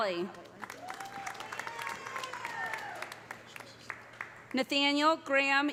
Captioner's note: audience applauding; audience cheering